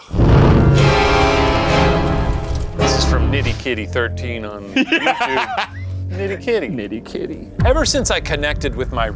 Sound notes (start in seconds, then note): 0.0 flames flickering; 0.0 flames whooshing; 1.0 abrupt ominous music; 4.6 laughing